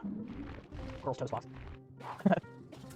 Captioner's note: chuckles